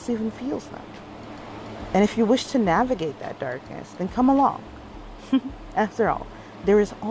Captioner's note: chuckles